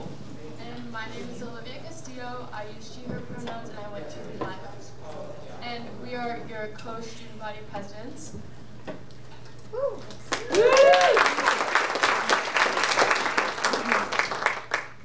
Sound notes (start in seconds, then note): 9.8 audience cheering and applauding